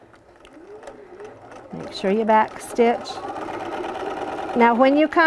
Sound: sewing Machine stitching

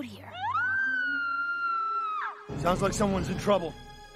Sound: screaming

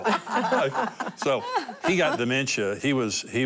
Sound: laughter

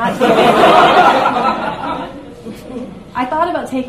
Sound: audience laughs

